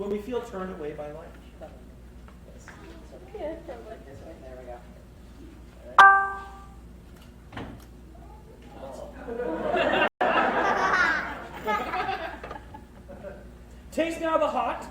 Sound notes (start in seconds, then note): 3.6 chatter and grimacing from bitterness, laughter